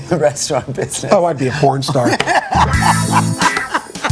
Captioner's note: laughs; porn music